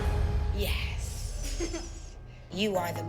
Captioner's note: laughs